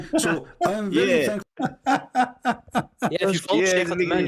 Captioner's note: Ketawa